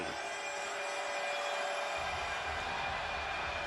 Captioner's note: crowd cheering